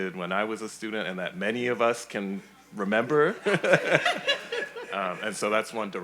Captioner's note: laughs